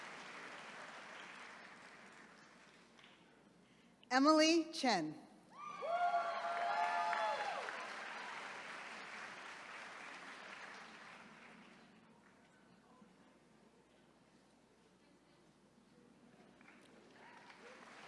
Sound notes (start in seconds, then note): 5.6 attendees cheering